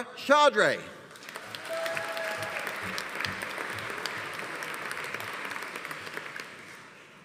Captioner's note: audience applauding; audience cheering